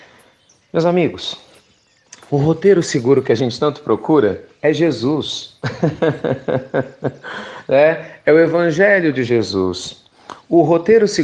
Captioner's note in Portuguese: Risos